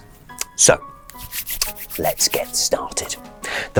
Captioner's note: hands rub